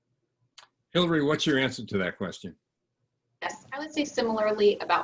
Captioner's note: none